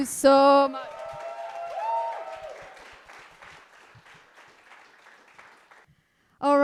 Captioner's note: group applauding and cheering